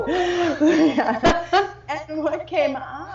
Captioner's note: laughing